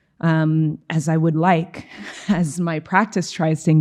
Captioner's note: chuckling